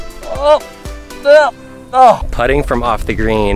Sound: grunting

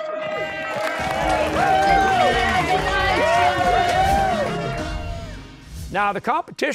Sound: cheers and applause

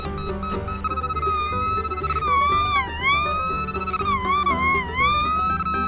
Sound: machine squeals; upbeat music

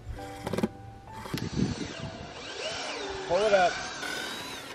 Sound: drill grinding

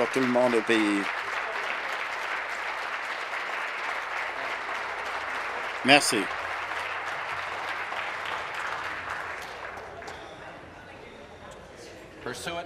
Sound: applause

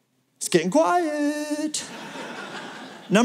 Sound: laughter

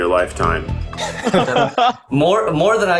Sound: group laughing

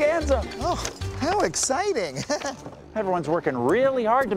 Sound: chuckles

